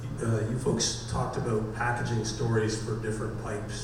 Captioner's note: voiceover